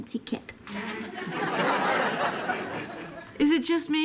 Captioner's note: audience laughing